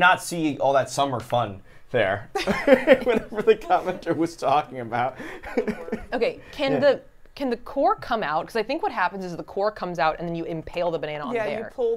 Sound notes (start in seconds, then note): 2.4 everyone laughs; 5.1 laughs